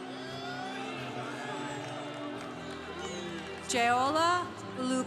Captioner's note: congregation cheering